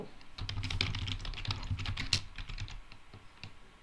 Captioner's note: types loudly